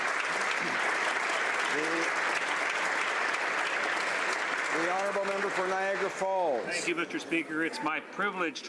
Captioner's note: applause